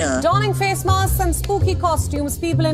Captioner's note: soundbite of archived recording